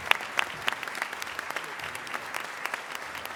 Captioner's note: applause